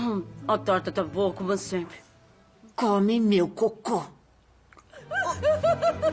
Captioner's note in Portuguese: risadas